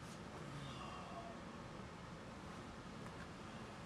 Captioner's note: soft groan